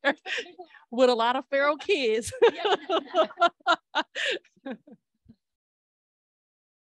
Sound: laughter

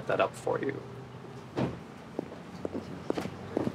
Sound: car door closes

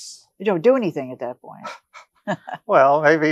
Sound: chuckles

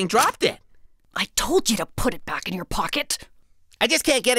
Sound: whispering

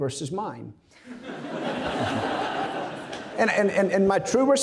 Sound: audience laughing

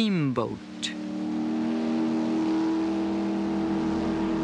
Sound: horn blows

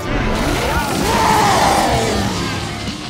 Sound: roaring

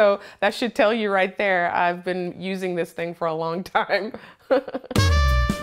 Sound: chuckles

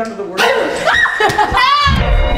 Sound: screaming

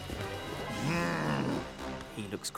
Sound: groaning

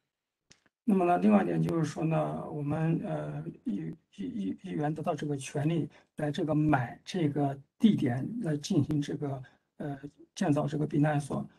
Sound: speaks in Mandarin

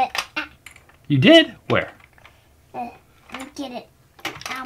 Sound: voiceover

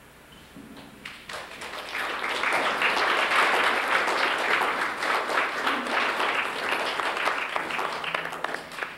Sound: applause

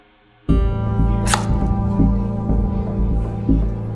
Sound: light dramatic music; chopping

